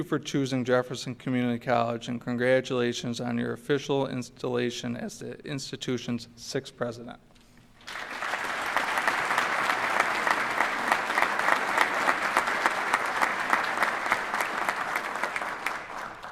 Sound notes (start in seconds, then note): 10.3 applause